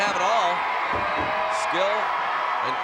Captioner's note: applause